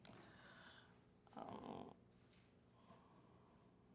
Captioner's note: moans